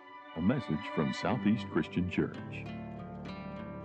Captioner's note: voiceover